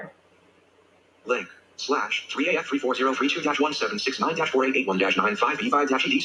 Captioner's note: assistive technology speaking faster